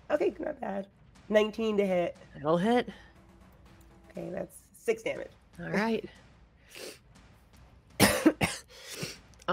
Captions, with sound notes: - Okay, not bad, 19 to hit. - It'll hit. - Okay, that's six damage. - All right. (coughs)